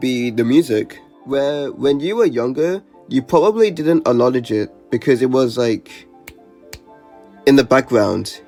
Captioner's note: clicks fingers